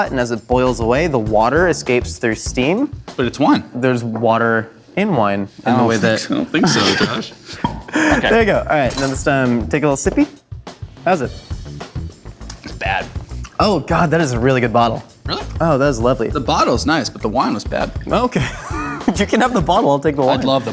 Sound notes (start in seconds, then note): 6.5 laughs; 7.6 wine cork pops; 18.3 laughs